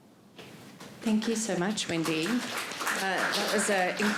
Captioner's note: audience applauding